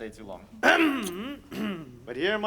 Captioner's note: Polonius grunts